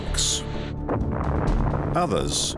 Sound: explosion

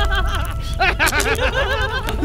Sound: evil laughter

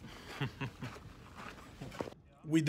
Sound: laughs

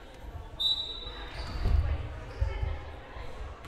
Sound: whistle blowing

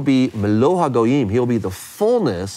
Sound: speaks in foreign language

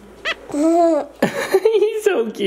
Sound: giggles

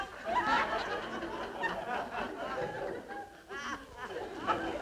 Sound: audience laughing

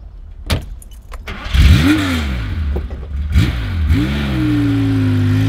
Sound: engine roars

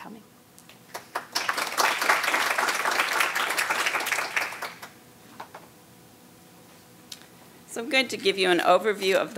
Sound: applause

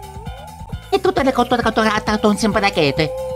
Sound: Mario Speaking gibberish

